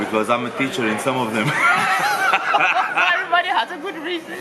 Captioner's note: laughs